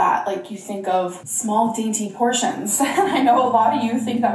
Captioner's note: laughs